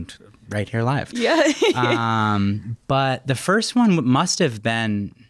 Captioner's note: chuckles